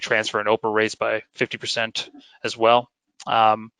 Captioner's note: murmurs